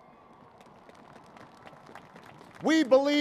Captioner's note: applause